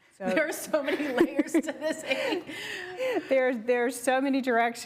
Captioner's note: laughs